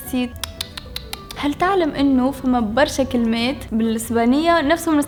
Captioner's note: tsks